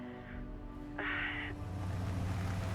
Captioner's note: sighs